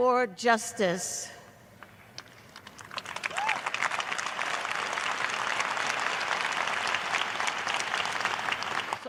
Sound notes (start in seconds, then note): 2.6 cheers and applause